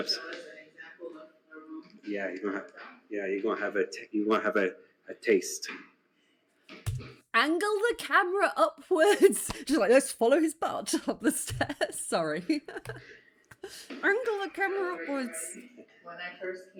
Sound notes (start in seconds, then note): 10.8 laughing